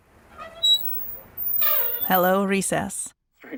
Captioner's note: sound of brakes